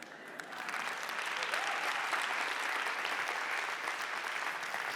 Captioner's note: audience applauding